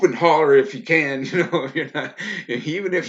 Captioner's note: laughs loudly